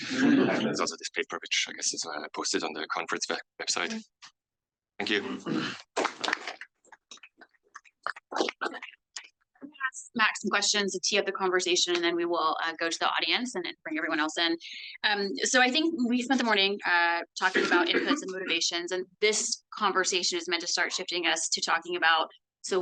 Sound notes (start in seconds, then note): 6.0 audience applauds